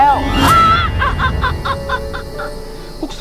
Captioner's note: Laughing